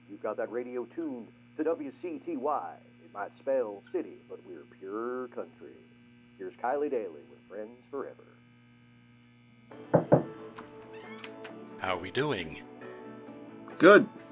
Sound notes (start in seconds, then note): 9.9 knock on door